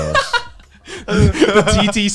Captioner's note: Garnt laughing